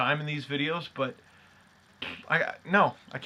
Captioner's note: blows raspberry